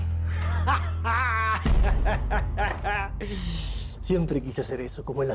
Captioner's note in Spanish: Carcajadas